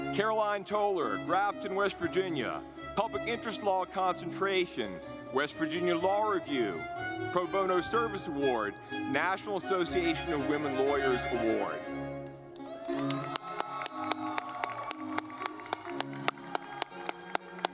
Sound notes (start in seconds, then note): 12.0 lively music; 12.5 audience clapping